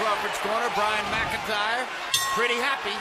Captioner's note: bell rings